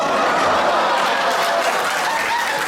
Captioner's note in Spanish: risas